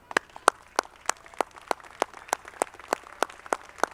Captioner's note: audience clapping